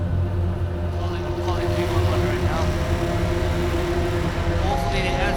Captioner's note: distorted buzzing sounds